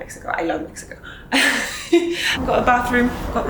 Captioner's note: laughs